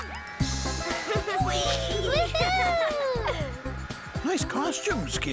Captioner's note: giggles